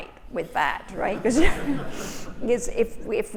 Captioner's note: all laughing